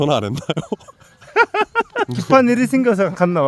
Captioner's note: haha